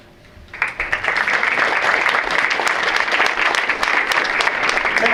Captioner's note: audience applauds